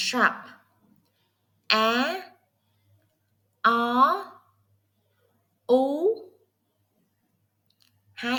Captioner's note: Vietnamese